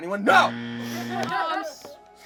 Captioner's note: loud buzzer